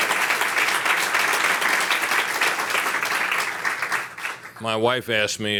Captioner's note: applause